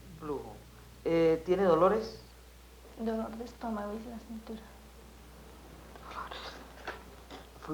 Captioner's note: women conversing in Colombian Spanish